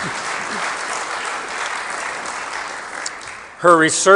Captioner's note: applause